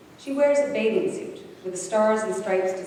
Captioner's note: none